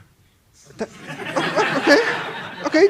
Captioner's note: laughter